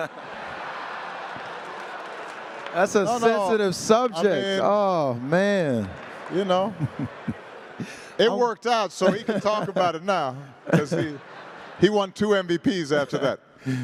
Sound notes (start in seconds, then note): 9.0 laughter